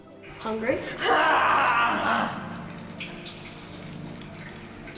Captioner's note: growling